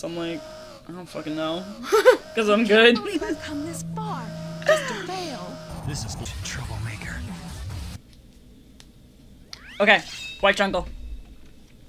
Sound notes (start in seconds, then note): 1.5 laugh